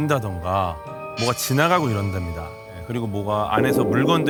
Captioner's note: something passes